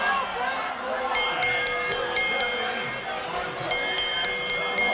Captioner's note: bell dinging